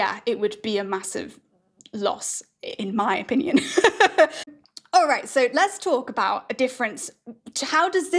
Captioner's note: laughs